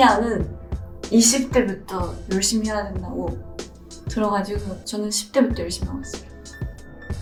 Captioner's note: gentle music continues; foreign language continues